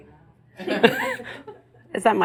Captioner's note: more laughter